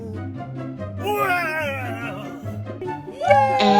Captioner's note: yells